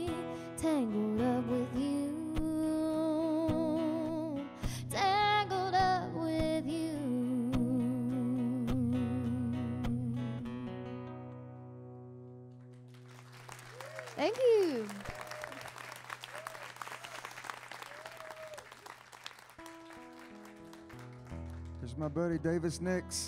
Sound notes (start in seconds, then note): 13.1 audience applauding; 14.8 audience cheering